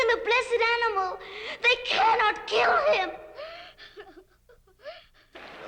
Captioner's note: sobs